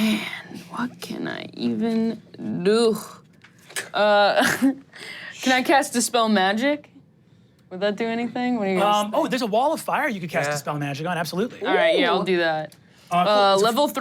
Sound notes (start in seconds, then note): none